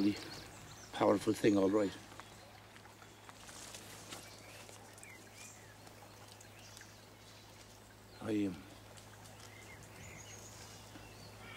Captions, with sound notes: It's a fairly powerful thing, all right. [birds chirping]